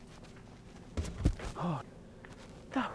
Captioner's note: stumbles